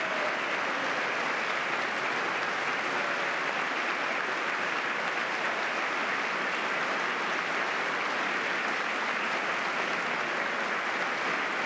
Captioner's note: applause